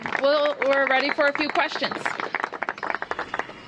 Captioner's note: applause